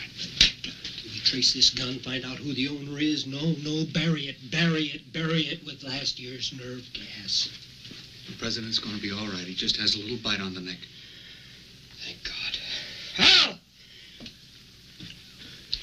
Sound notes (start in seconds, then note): none